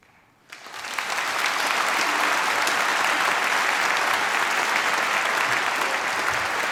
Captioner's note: applause